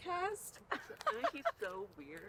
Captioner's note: students laughing